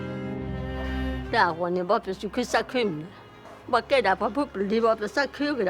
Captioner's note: speaking in foreign language